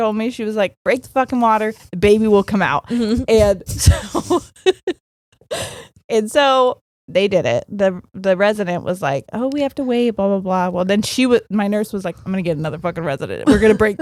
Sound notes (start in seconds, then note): 3.8 laughing